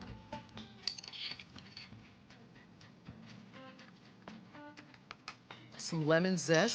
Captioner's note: scraping